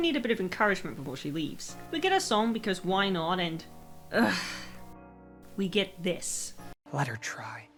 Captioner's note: frustrated sigh